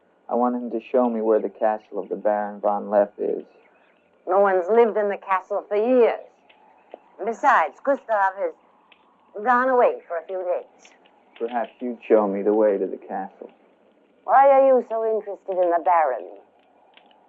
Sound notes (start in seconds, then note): none